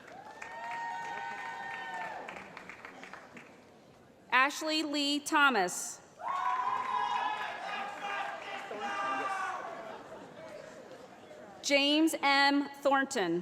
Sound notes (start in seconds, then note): 0.0 applause; 6.3 shouting